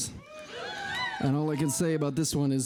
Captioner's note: people cheering